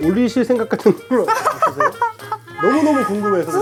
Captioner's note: crack up